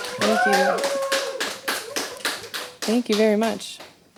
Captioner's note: background clapping and cheering; background clapping